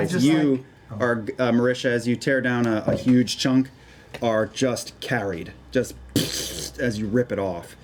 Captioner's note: squishing noise